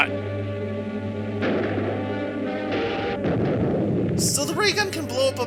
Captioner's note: gunshots, atomic blast, explosion